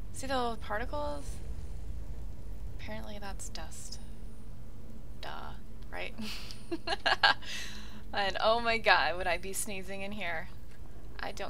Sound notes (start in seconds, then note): 6.7 laughs